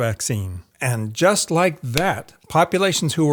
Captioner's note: finger snaps